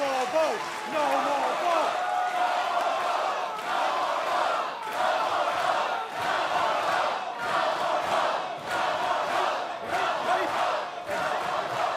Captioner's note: chanting no more bo